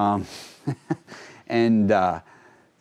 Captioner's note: laughing